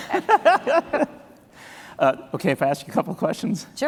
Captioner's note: chuckles